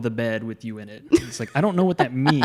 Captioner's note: laughs